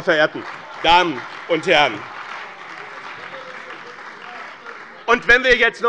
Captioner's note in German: Beifall bei dem BÜNDNIS 90/DIE GRÜNEN und der CDU - Widerspruch von der SPD